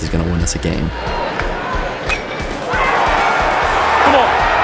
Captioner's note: cheering